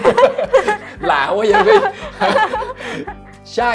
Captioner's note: laugh